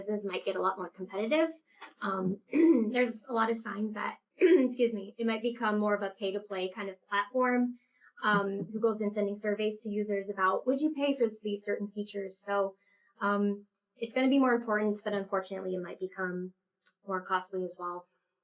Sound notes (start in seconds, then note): 2.5 clears throat